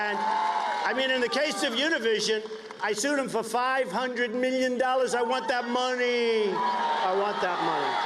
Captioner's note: cheers and applause